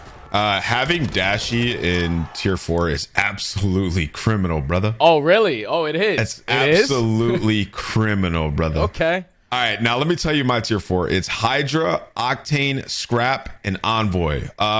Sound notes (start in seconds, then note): 6.6 chuckles